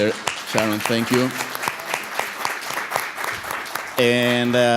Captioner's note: audience applauds